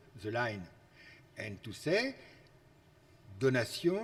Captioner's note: speaks foreign language